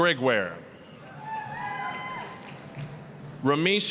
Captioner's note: applause, cheering